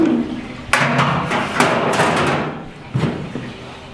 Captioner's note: metal clanking